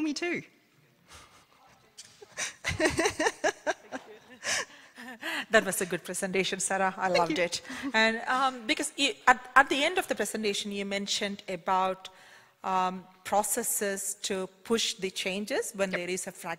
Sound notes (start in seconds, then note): 5.6 laughs